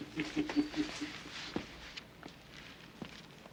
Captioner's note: men chuckling